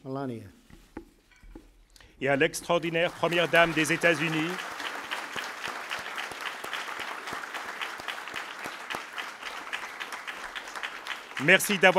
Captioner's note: applause